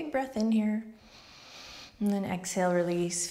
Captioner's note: inhales smoothly